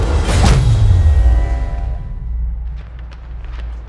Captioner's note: punch thudding over tense electronic swell; footsteps crunching